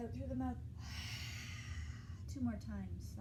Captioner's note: exhaling